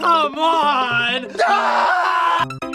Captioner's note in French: cri